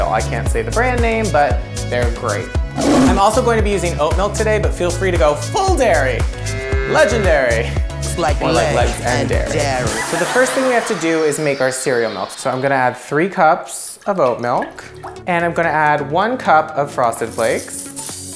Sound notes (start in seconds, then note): 2.7 tiger roar; 6.4 cow moos